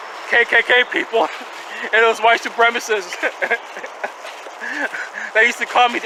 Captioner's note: chuckling